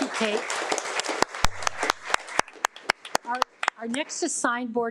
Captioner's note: audience applauding